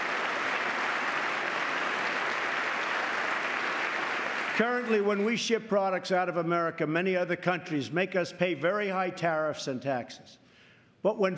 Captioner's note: applause